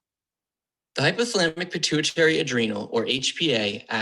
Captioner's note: voiceover